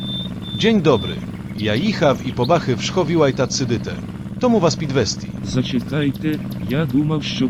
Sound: in polish accent

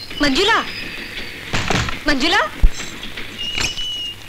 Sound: door knocks

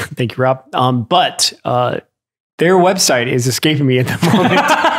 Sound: Father Innocent laughs; laughs

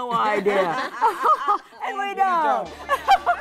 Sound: laughing

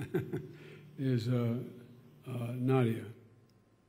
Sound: laughs

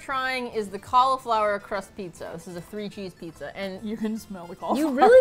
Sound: laughs

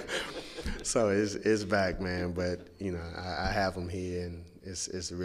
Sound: laughter

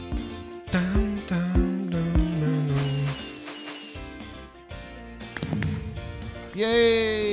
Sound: fireworks explode; hums along with note block music

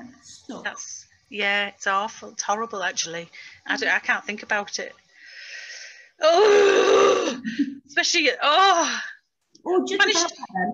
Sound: cries

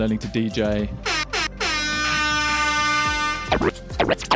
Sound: horn blasts; record scratching

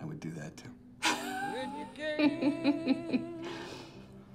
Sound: laughing

